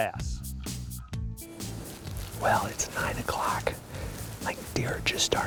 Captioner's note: whispering